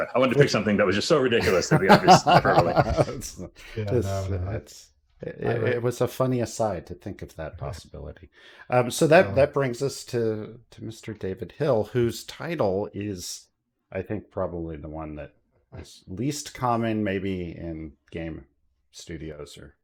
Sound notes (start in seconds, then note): 1.4 laughter